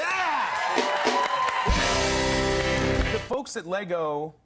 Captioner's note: cheers and applause